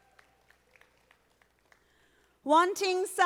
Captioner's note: audience applauding